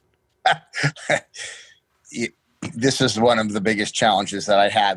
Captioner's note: laughs